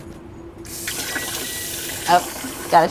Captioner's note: oven beeping